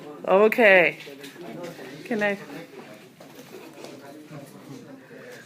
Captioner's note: classroom chatter